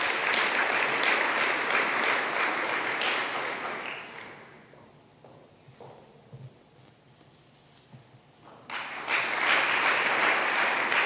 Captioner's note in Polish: oklaski